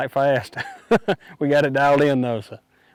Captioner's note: laughing